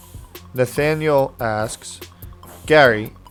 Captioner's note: voiceover